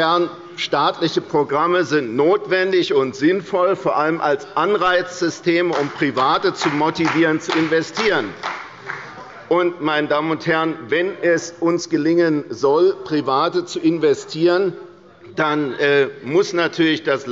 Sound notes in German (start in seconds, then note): 8.3 Beifall bei Abgeordneten der CDU